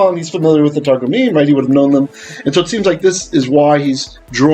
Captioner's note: Hebrew